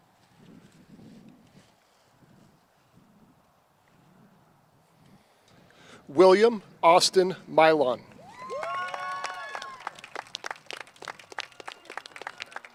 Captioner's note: cheers and applause